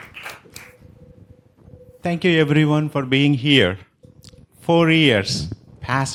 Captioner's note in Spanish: Aplausos